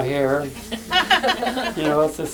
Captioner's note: laughter